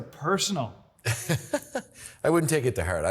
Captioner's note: laughing